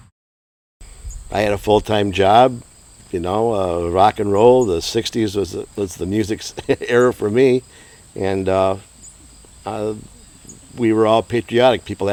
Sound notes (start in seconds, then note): 6.4 chuckling